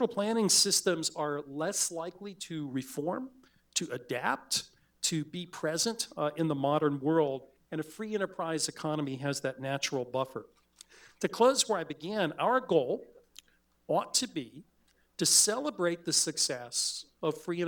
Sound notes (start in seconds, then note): none